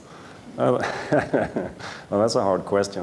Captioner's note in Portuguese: risos